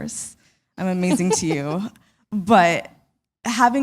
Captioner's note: chuckle